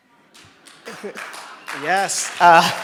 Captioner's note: people clapping